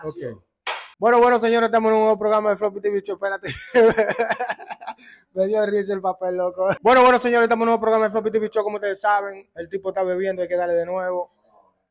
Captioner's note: laughs